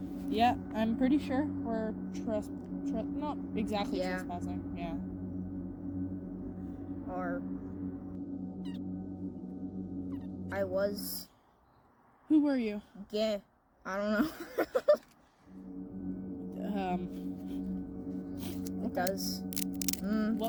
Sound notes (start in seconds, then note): 14.2 laughing